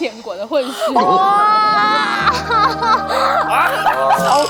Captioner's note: applause urgently